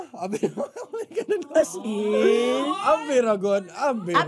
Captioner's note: chuckles